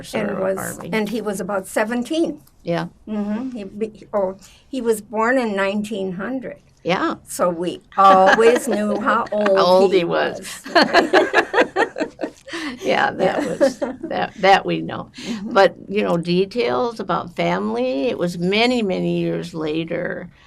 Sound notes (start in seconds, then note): 10.5 laughing